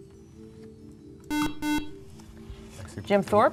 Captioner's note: buzzer